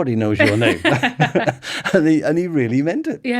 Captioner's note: laughing